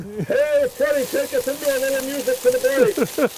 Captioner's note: speaking into can; chuckling